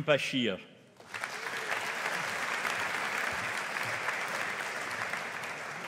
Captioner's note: audience applauding